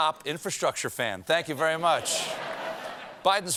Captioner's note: laughter